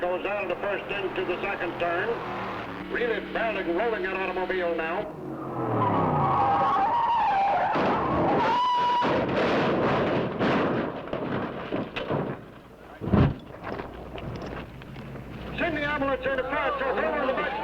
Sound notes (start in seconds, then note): 8.1 car crashing; 13.3 flames roaring